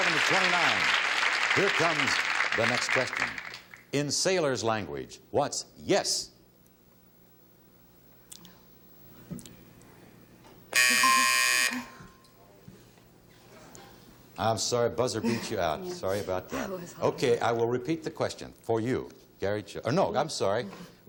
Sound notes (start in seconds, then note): 10.7 buzzer; 11.9 ding